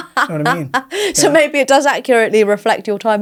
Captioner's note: laughs